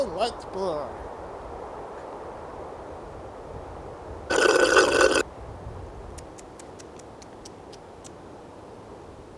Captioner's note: slurping, smacking lips